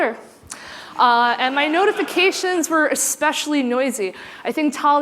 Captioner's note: laughter